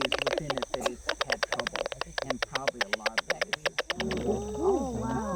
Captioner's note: people mumbling